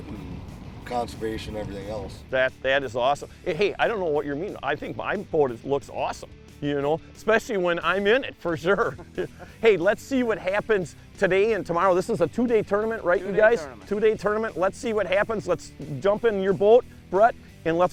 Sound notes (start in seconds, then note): 8.5 laughter